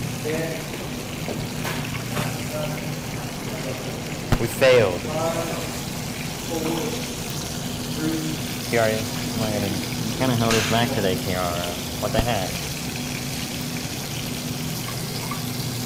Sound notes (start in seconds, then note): 12.9 sizzling